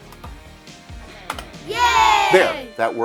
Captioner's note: cheering